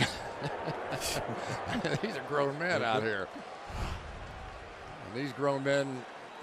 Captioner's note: laughs